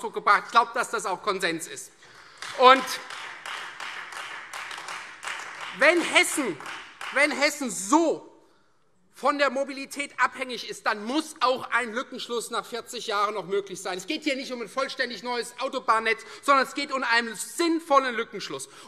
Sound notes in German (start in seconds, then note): 2.0 Beifall Freie Demokraten und vereinzelt AfD